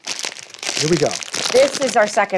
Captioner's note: bag rustles